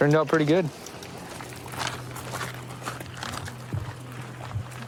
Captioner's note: footsteps crunching